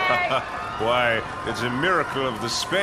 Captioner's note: celebrating